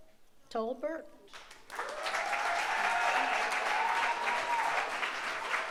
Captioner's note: audience applauds